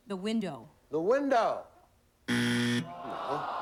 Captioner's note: buzzer